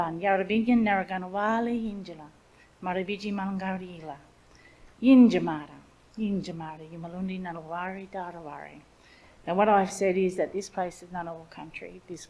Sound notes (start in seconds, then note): 2.8 speaks in Ngunnawal language